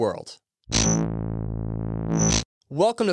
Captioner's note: electronic buzzing